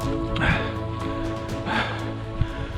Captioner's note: heavy breathing